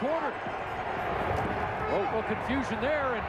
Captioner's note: wild cheering